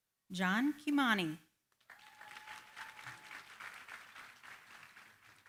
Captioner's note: applause